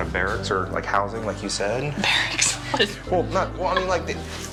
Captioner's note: laugh